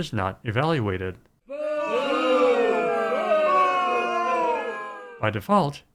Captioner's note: crowd booing